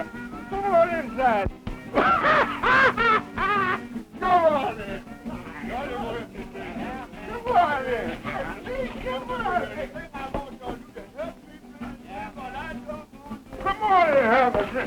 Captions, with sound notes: Come on inside. (loud laughter) Come on in. Come on in. Come on. Come on and have a drink.